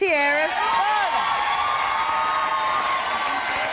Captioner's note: applause